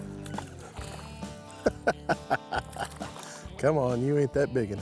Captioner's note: laughing